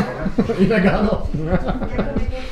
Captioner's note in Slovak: smiech